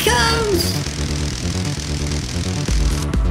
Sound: crackling electricity

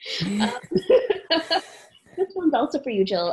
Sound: laughs

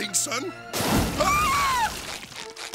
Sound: screaming

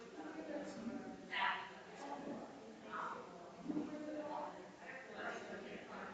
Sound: people chattering distantly continues

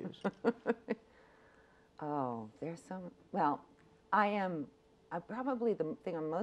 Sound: laughs

